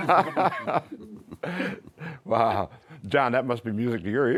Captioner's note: laughter